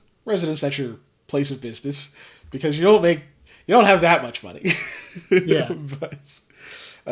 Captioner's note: laughs